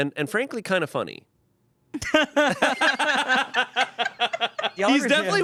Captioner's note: everyone laughs